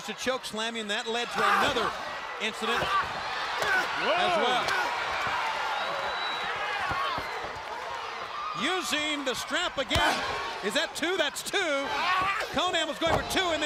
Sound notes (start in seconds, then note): 3.7 crowd cheering; 7.4 crowd cheering